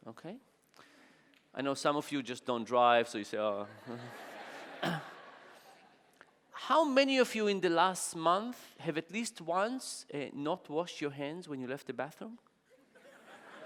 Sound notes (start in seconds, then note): 3.8 audience laughing